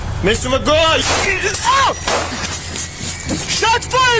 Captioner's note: gun shot